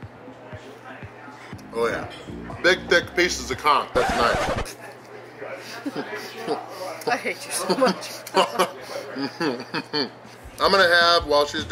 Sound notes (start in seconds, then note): 7.6 laughter